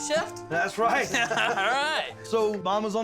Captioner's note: laughing